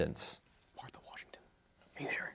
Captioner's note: whispers